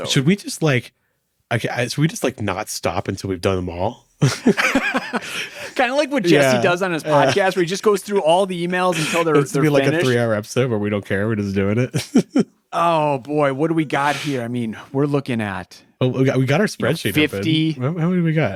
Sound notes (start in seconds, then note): 4.2 both laughing